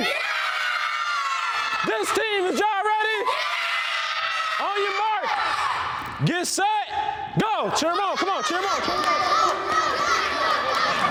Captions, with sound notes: (children scream and shout) This team, is y'all ready? (children scream and shout) On your marks, get set, go! Cheer 'em on, come on, cheer 'em on. (children cheer)